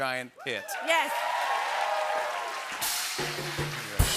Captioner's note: cheers and applause